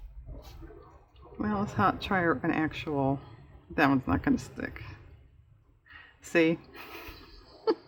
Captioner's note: laughs